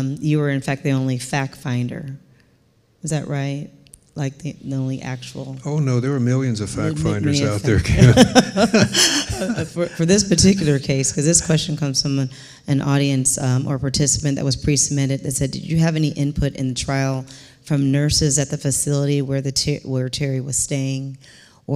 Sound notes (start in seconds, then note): 8.5 laughing